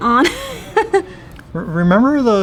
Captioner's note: laughs